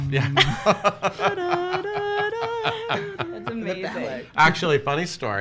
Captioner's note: hums